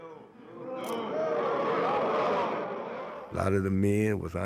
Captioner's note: crowd boos